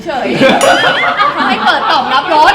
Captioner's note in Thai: เสียงขำ